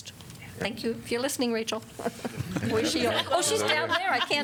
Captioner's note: laughter